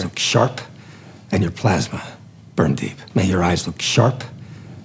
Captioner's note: movie dialogue plays